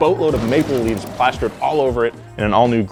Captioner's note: cars crash